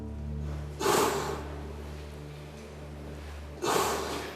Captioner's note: labored breathing